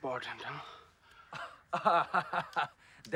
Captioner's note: laughs